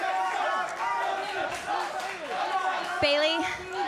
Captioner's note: fans chanting